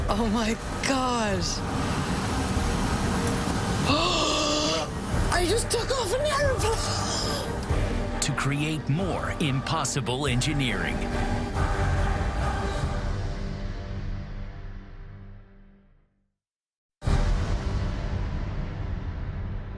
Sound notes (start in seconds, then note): 3.8 gasps; 7.6 laughs